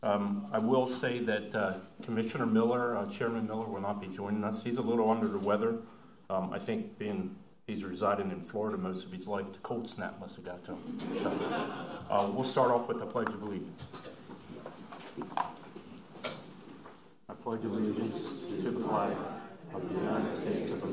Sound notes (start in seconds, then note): 10.8 laughter